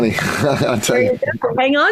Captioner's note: laughs